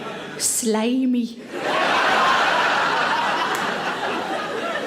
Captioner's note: audience laughs